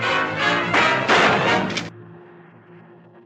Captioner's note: gunshot